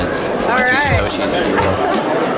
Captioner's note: laugh